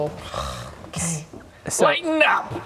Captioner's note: urggggh